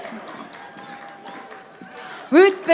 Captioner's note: audience applauding